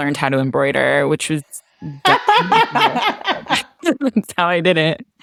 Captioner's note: laughter